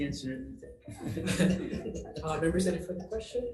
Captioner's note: member laughing